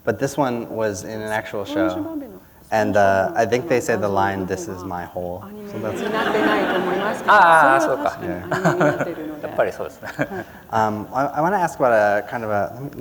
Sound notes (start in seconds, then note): 7.7 laughter; 8.7 foreign language